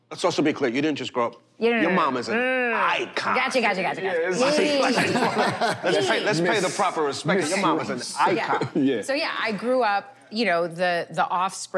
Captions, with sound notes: - Let's also be clear. You didn't just grow up-- your mom is an icon. - Yeah. Yeah. [chatter, laughter] - Let's pay the proper respect. - Miss...Miss Ross. - So, yeah. I grew up, you know, the offspring